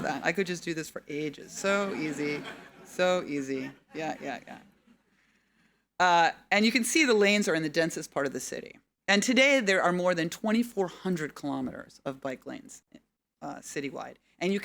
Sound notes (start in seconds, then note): 1.6 audience laughing